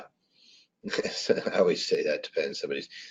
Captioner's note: laughs